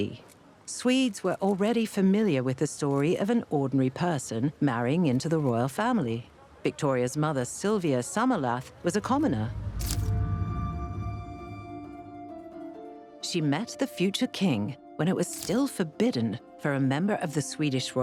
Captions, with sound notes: Swedes were already familiar with the story of an ordinary person marrying into the royal family. Victoria's mother, Silvia Sommerlath was a commoner. (camera clicking) (gentle music) She met the future king when it was still forbidden for a member of the royal family